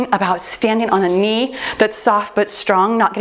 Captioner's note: jingling